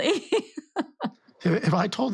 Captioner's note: laughing